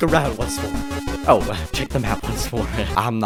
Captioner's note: chuckles